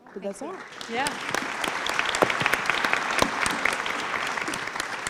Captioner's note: applause